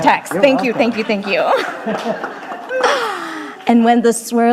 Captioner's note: laughs